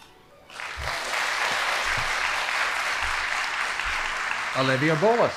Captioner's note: audience applauding